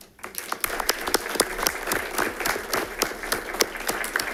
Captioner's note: audience applauding